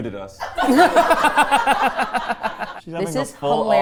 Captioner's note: everyone laughing